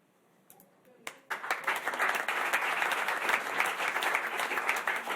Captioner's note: applause